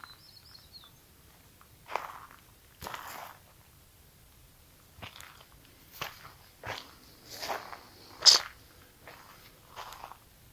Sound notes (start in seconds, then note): 2.8 footsteps